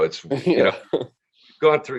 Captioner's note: chuckles